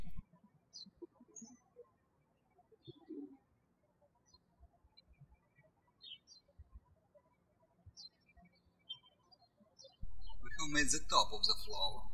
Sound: birds chirping

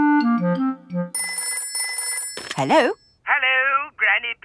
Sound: telephone ringing

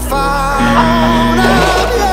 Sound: buzzer

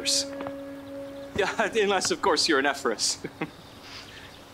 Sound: laughs

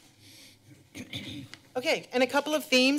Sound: clears throat

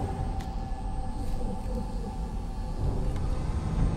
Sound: spectral noises

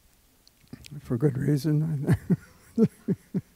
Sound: laughs

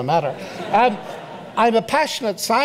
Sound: audience laughs

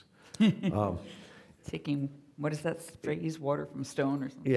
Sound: laughing

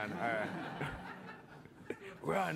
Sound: laughter

